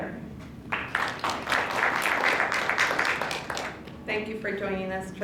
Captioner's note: applause